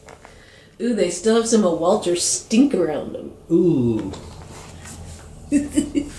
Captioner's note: giggle